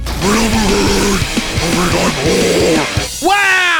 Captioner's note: demonic Voice